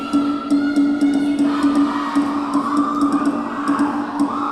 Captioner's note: whistle blowing; rhythmic drumming